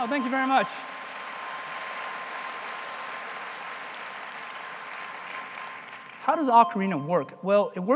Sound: applause

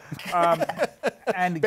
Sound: laughter

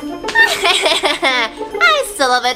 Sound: laughs

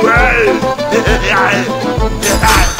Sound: legendary heavy laughs

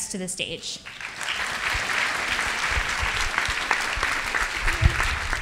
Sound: audience applauds

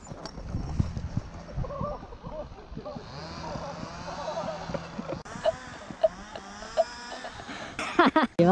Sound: giggling

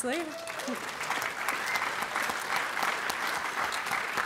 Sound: applause

